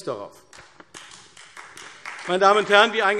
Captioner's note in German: Beifall AfD